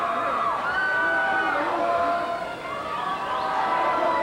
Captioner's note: crowd yelling